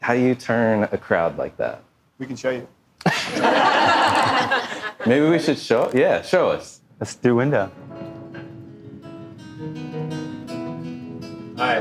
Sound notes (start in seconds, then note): 3.1 audience laughing; 7.4 guitar playing